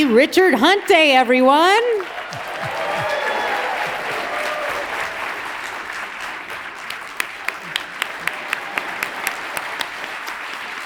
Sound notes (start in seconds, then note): 2.4 audience cheers